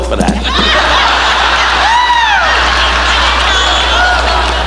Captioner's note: cane thumping; audience laughing